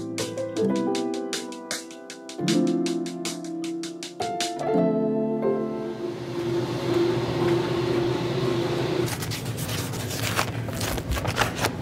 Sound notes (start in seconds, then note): 5.8 machinery whirring; 9.1 bag scraping